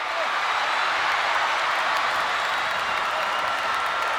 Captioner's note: audience cheering